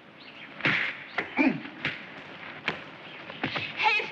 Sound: Arnold grunts

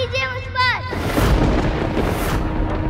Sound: thundering

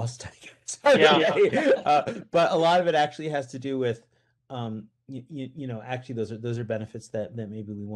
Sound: laughs

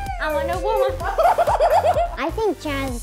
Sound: laughing

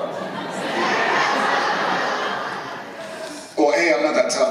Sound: laughter

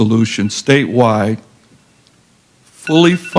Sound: timer beeps

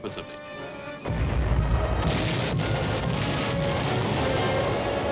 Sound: explosions booming

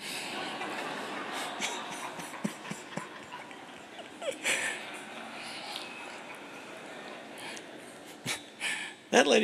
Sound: laughter

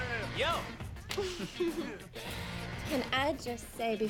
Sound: giggles

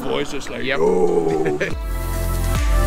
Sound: laughing; mellow electronic music

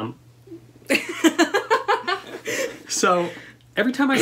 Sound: laughter

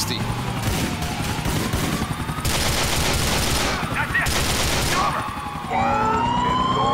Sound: sirens, bullets firing, explosions

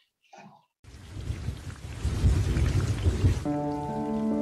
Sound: rain pattering; thunder rumbling; gentle brooding music

